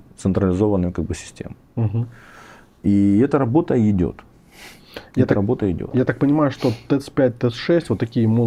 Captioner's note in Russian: фыркает